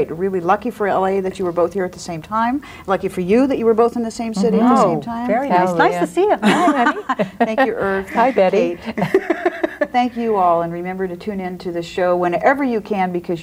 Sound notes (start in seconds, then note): 5.1 overlapping chattering; 9.6 laughs